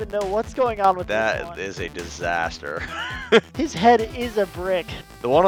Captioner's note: laughs